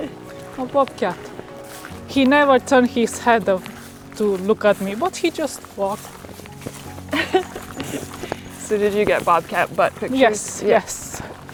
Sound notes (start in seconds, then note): 0.0 Aislinn chuckles; 7.1 laughs